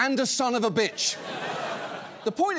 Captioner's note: audience laughs